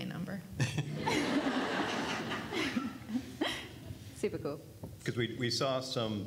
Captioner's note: everyone laughs